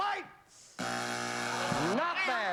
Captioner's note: buzzer